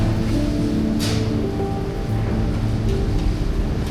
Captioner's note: gate shuts; melodic music